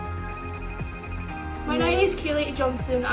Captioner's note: phone rings